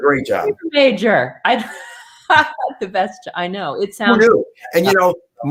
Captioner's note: laughter